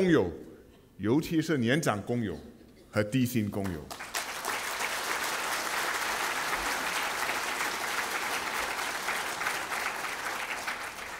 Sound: 掌声

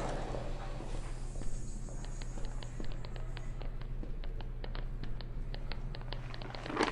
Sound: tapping

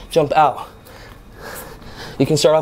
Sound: breathing deeply

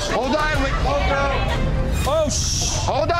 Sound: shouting

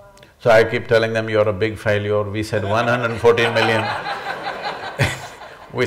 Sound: laughter

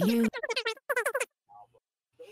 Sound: aggressive hamster noises

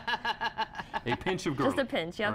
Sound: laughter

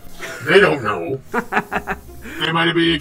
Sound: Kuai Liang laughs

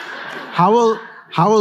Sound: laughter

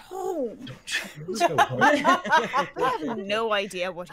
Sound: everyone laughing

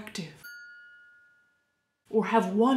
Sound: dinging

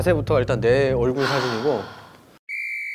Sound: deep sigh

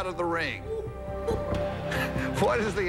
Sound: laughs

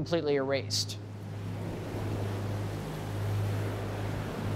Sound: waves lap

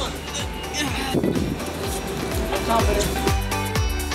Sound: grunts

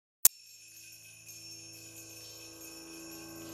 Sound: bells jingling

